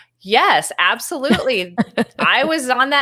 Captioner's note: laughs